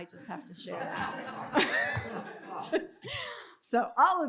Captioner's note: laughter